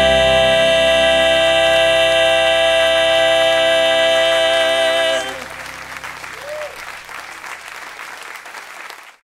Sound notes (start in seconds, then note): 5.4 cheers and applause